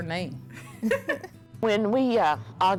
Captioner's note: laughter